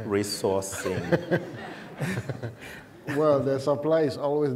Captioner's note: laughter